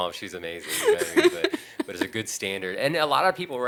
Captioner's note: laughing